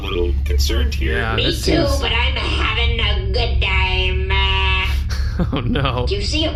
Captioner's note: laughing